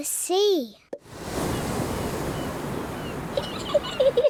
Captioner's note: wave noises; seagulls shriek; giggles